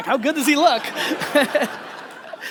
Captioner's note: audience laughter